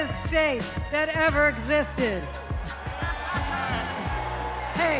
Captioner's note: cheers and applause